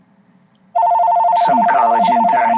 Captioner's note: phone rings